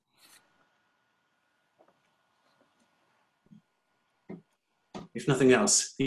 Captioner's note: silence